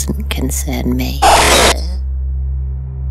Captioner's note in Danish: Høj radio lyd